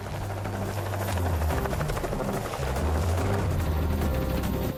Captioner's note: helicopter buzzing